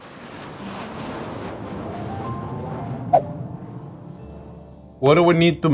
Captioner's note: airplane taking off